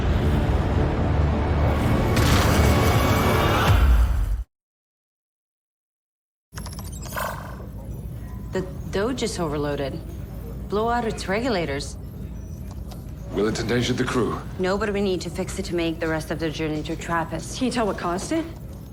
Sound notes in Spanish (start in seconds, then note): 0.3 electricidad crepitando; 6.6 pitido